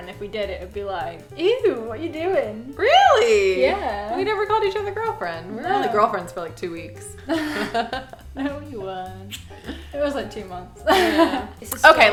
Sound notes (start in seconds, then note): 7.2 both laughing